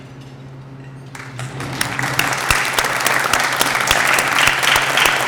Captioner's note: applause